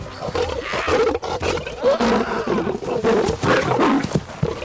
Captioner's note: Man Screaming